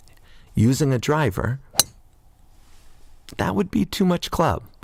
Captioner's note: sound of driver hitting golf ball